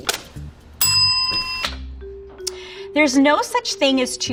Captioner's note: bell dings